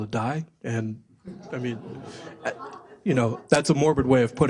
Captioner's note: laugh